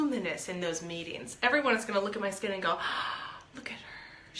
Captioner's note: gasps